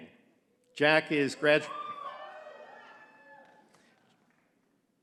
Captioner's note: audience cheering